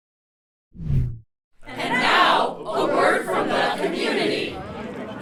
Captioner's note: crowd